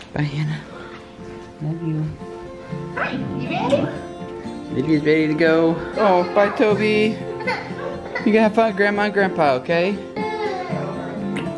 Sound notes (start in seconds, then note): 7.3 cries